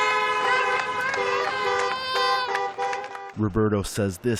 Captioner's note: cheering